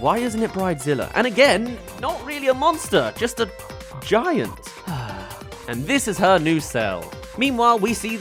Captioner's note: sigh